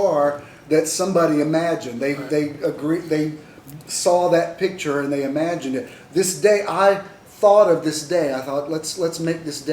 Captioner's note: none